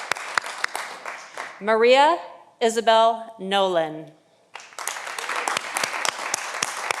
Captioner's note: audience applauding